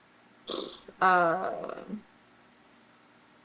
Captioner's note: blows raspberries